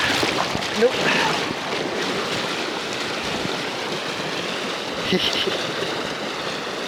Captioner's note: laughs